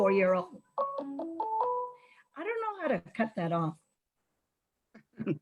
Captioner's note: phone ringing; chuckles